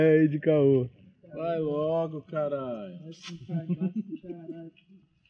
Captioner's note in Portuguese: risos